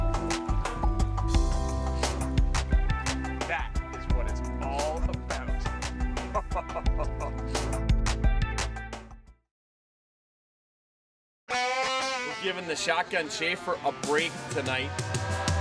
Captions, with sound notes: - That is what it's all about (laughing). (energetic bluegrass music)